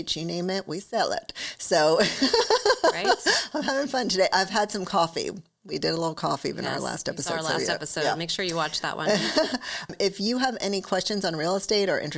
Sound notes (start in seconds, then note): 2.2 laughs; 9.1 chuckles